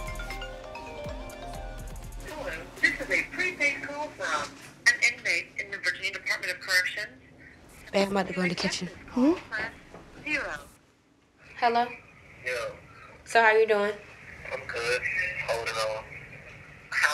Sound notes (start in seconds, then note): 2.5 automated Voice